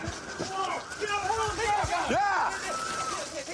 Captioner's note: officers yelling